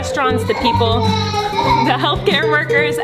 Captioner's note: screaming